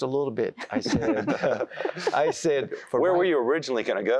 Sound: laughter

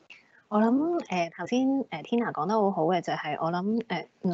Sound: Cantonese

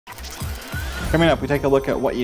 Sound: mechanical sounds

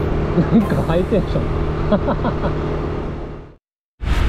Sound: laughs

